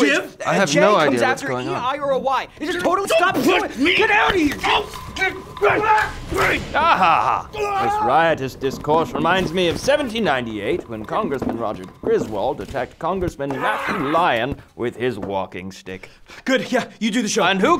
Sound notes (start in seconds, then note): 0.2 arguing; 2.1 arguing, fighting